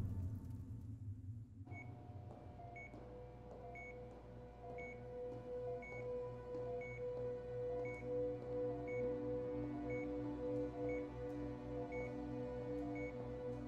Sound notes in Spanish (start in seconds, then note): 1.5 Pitido